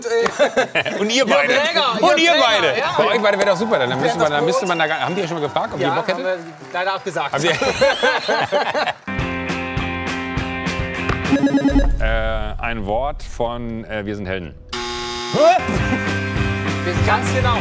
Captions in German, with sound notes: Jörg Draeger! - Und ihr beide! Mit euch beiden wär doch super, haben die euch schon mal gefragt, ob ihr Bock hättet? - Ja, aber leider abgesagt. (Gelächter) Äh ... "Ein Wort" von Wir sind Helden. Wir sind ganz genau.